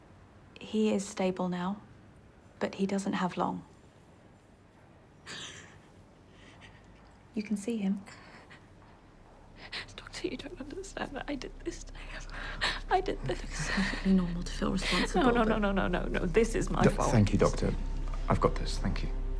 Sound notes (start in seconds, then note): 5.2 sobbing softly